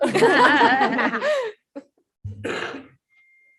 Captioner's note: all laugh